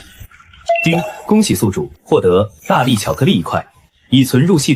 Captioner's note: ding!